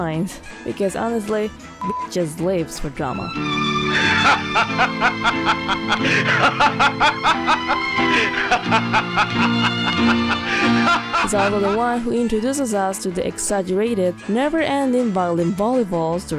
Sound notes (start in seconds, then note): 1.8 beep